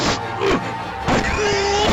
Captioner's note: grunting